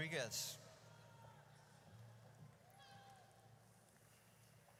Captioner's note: audience cheers